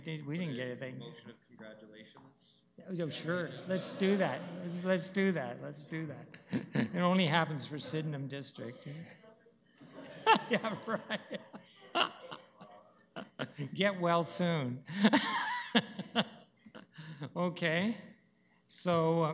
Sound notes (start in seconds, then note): 6.3 laughter; 12.3 laughter; 15.2 laughs